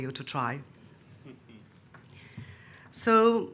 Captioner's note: participant chuckles